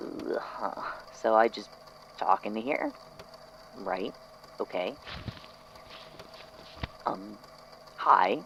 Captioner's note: shuffling